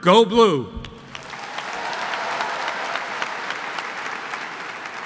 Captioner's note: audience applauds